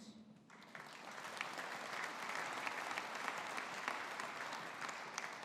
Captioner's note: audience applauding